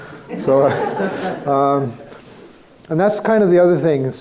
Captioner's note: crowd laughing